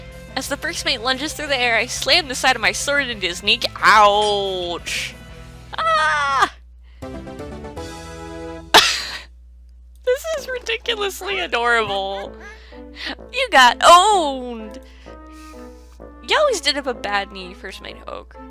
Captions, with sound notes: As the first mate lunges through the air, I slam the side of my sword into his kneec--ouchhhh Aaaah! [Laughs at the Mario music] [Trying not to cry laughing] This is ridiculously adorable! You got owned! You always did have a bad knee, first mate Hoge.